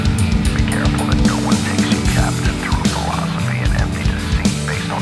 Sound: filtered Voice

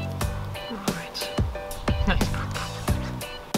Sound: drooling

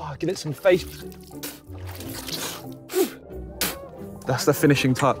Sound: water splashing; spitting

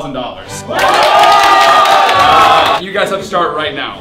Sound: collective cheering

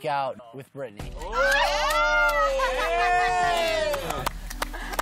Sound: cheering

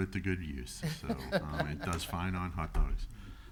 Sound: laughs

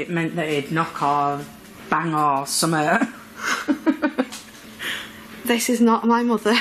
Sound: laughs

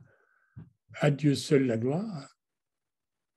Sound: french words

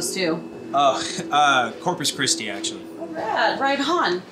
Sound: laughs

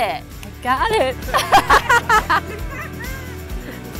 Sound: laughter

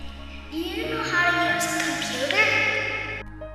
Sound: echo

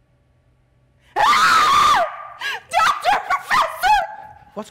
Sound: Zina loudly screams

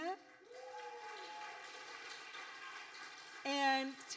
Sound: audience applauding

